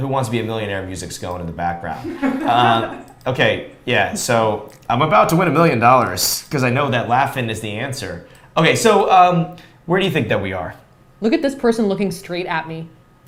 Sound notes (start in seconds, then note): 2.0 laughs